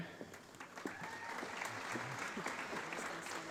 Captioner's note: applause